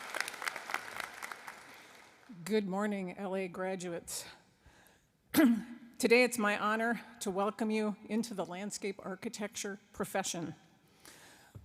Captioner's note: applause